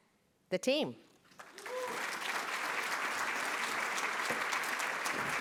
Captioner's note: applause